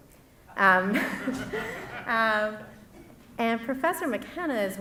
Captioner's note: laughs